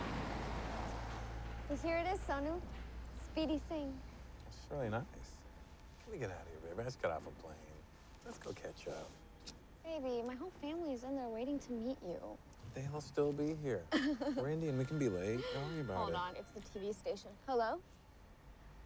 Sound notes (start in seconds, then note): 8.8 kissing; 13.9 Reena laughing; 14.8 cellphone ringing